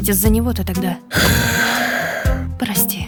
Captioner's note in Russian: тяжело вздыхает